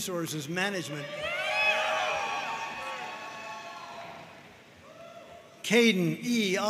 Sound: audience cheering and applauding

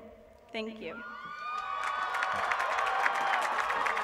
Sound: applause

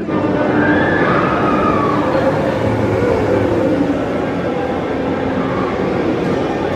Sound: guests screaming; Lightcycles whoosh

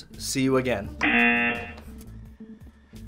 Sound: buzzer rings

